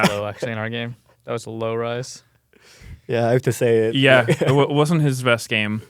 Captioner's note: laughs